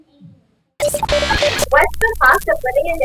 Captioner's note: static noise